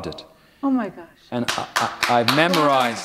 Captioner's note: applause